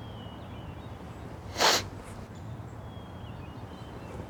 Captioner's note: man sniffs